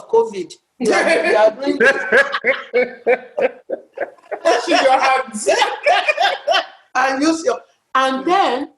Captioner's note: laughter